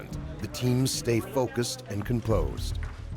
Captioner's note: voiceover